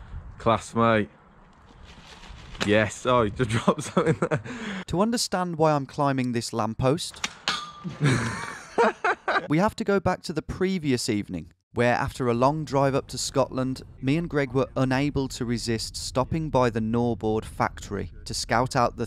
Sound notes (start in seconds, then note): 3.6 laughing; 7.9 laughing